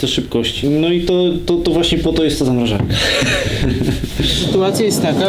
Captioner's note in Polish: śmiech